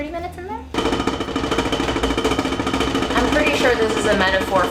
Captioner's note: rattling sound